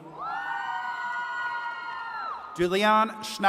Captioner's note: attendees cheering